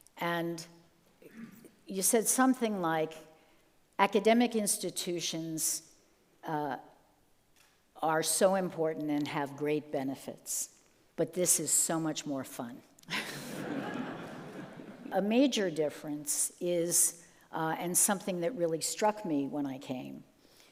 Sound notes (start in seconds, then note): 13.2 group laughing